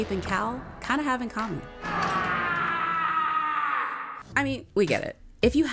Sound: screaming

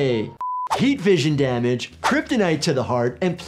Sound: beep

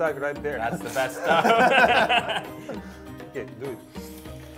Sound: laughing

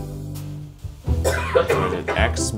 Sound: upbeat music; coughing

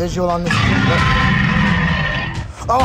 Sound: Indominus roaring

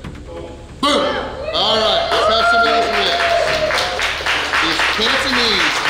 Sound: cheering & Clapping

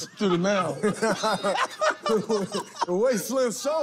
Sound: laughter

